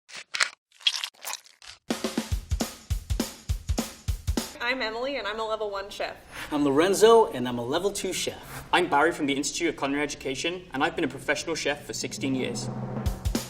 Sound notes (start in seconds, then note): 0.0 peel tears; 0.0 potatoes squish; 12.9 drum beat